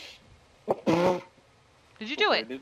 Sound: laughed

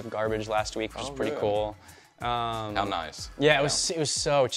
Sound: sarcastically

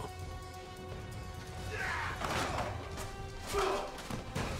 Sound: grunting

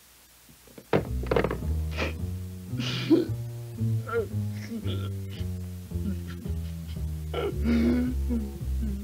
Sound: sobbing

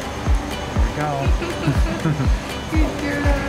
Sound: laughter

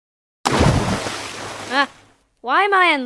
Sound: splash

